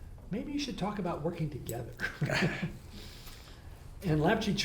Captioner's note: laughs